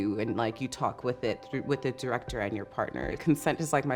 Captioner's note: none